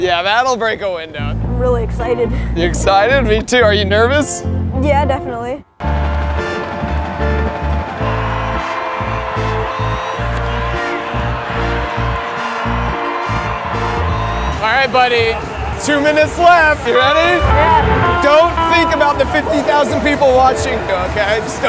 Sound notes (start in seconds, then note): 6.1 smooth music; 7.2 audience cheering